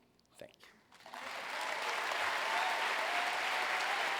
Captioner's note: applause